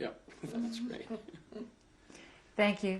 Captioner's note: laughing